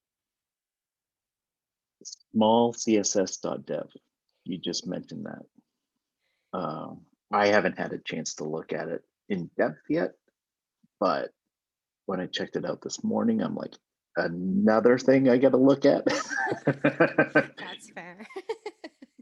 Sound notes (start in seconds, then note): 16.0 both laughing